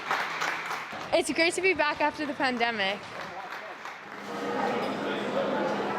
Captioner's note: applause